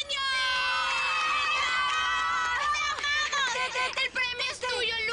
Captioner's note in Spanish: Aplausos